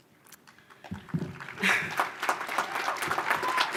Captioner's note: applause